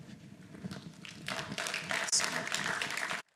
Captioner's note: applause